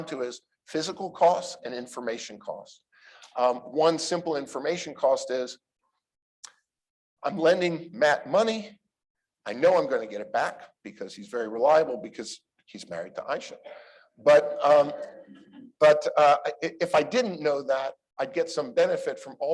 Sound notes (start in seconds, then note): 13.6 laughter